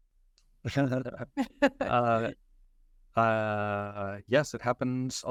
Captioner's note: chuckling